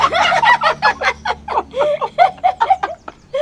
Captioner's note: both laughing